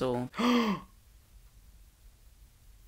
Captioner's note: gasps